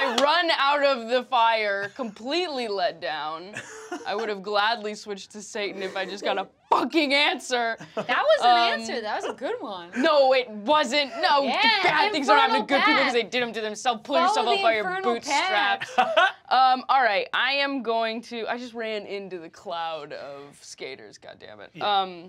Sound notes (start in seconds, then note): 15.8 laughs